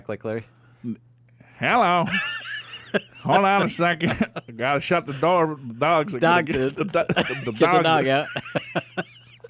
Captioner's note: laughs